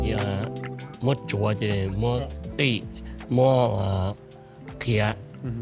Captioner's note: speaks in foreign language